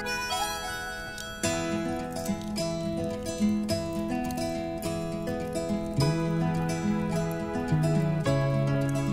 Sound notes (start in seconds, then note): 0.0 upbeat music; 1.4 fire crackling